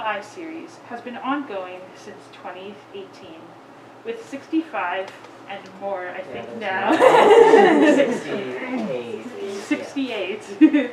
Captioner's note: giggles